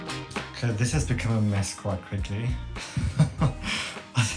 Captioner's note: laughs